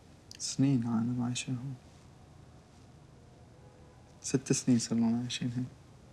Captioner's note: speaks in foreign language